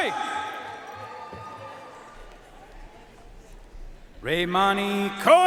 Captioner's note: audience cheering and applauding